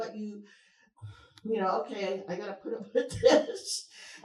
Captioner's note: chuckles